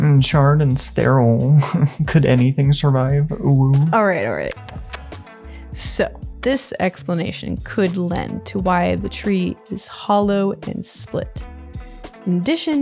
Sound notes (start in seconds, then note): 4.5 kisses